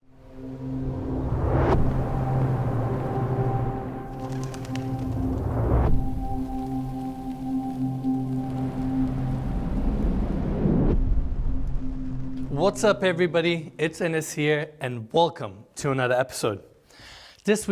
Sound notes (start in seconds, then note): 0.0 mysterious music; 1.5 air whooshing; 4.1 bird wings fluttering; 5.4 air whooshing; 6.0 raindrops pattering; 9.9 air whooshing